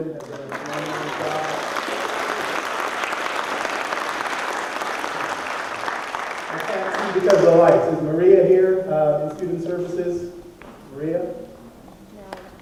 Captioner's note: applause